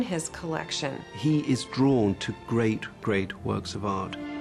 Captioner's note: voiceover